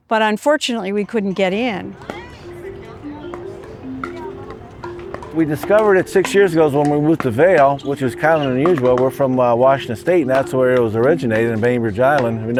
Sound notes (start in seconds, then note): 1.9 court noises